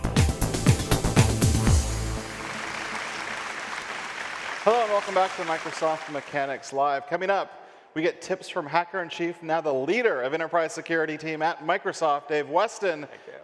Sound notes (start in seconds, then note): 2.5 audience clapping